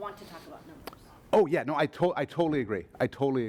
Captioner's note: voiceover